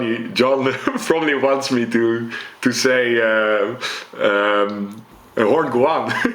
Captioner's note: chuckles